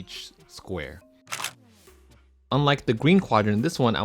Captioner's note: camera clicks